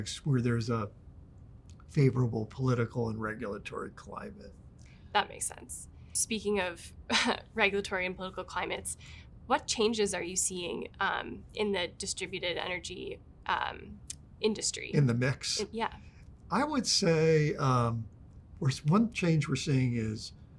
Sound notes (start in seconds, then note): 7.1 chuckles